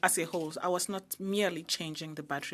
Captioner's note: speaking French